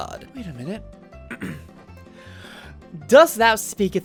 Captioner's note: clears throat